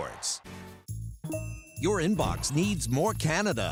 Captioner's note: notification chimes